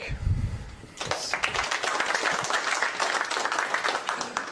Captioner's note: applause